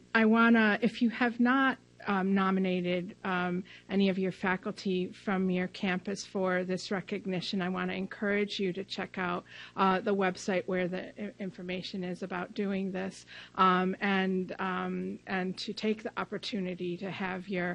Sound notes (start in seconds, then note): none